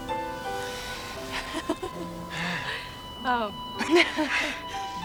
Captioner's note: Megan laughing